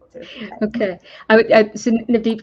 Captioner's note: laughs